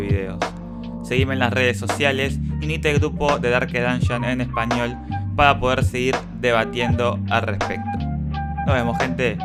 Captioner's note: in Spanish